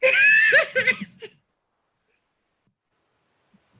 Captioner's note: laughs